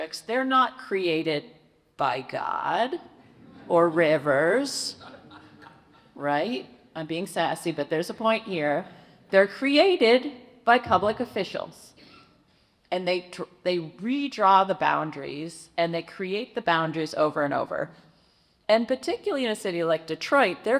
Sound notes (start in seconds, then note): 5.0 audience laughs